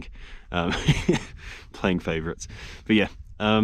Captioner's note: chuckles